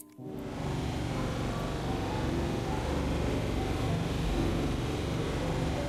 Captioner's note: spaceship noises